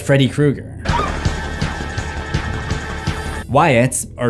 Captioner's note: screaming in bath